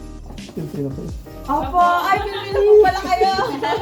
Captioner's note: politely